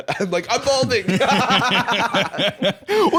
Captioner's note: both laughing